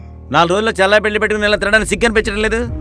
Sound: none

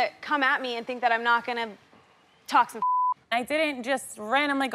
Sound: beep

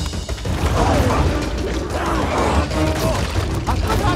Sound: Te Ka growling

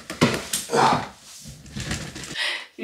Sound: grunt

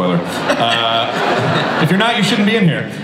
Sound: audience laughs

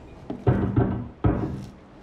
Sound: loud banging

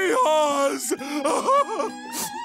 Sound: crying

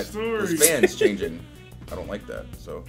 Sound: laugh

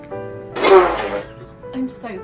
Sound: laughs

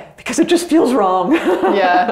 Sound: laughs

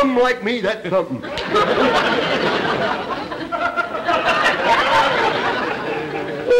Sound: audience laughter

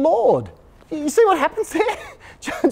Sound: chuckles

